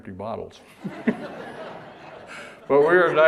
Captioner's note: audience laughter